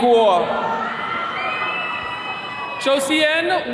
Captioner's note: attendees cheering